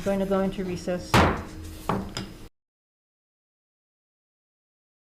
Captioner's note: gavel banging